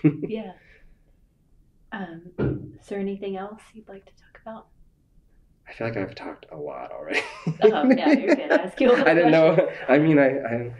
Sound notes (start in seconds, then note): 7.1 laughter